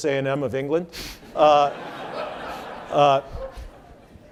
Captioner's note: laughing